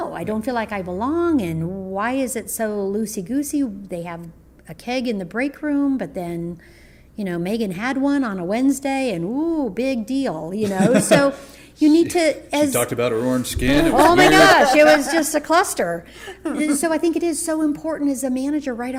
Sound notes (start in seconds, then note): 10.6 audible laugh; 13.9 audible laugher